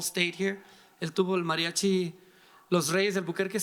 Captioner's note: speaking in foreign language